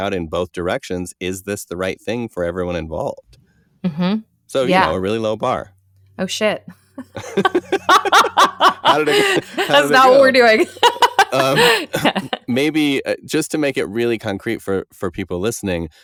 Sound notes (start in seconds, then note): 7.0 laughter; 10.3 more laughter